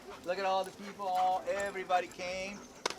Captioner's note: none